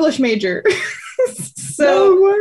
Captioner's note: laughs